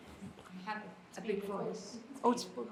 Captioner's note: attendees faintly speaking